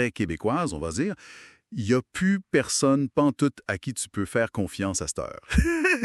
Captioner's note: laughs